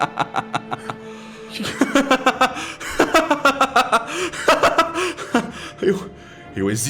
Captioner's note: laughs